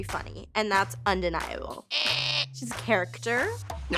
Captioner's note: making buzzer sound